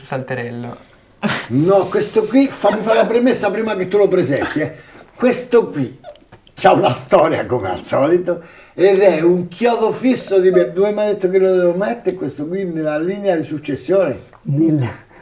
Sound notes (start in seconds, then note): 1.1 laughs